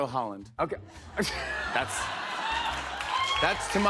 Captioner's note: laughter